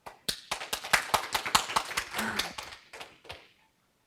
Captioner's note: audience applauds